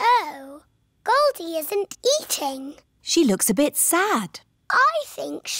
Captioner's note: none